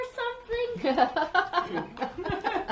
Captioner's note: laughter; laughs